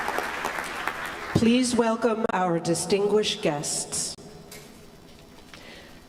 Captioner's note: applause